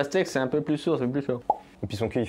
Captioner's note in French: blop